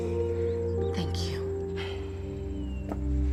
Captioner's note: sighs